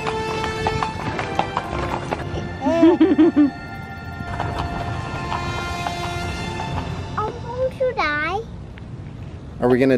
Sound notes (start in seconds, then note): 2.6 laughing